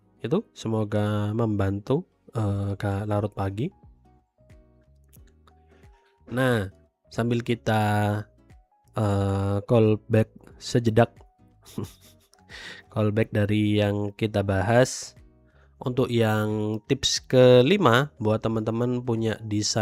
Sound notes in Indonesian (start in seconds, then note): 11.7 tertawa